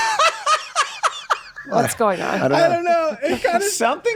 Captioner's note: group laughing